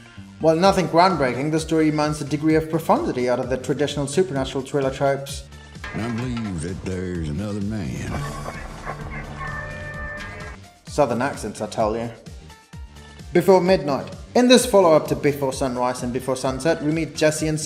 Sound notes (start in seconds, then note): 7.4 scene with southern accent